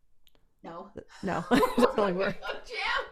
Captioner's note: laughing